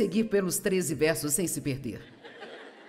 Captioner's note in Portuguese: audiência ri